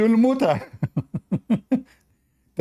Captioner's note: Ketawa